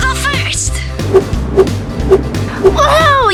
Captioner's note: whooshing